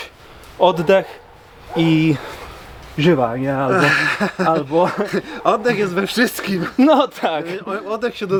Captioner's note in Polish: śmiech